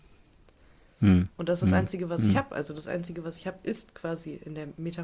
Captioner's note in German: räuspern